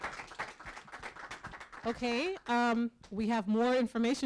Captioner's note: applause